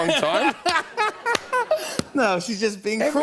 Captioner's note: laughter